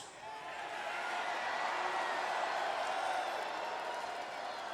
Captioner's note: audience cheering